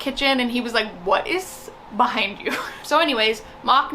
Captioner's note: chuckles